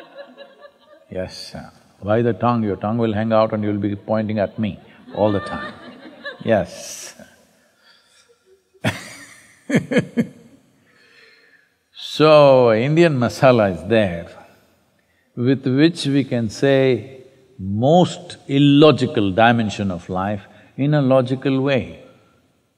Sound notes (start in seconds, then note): 8.0 laughs; 8.1 laughter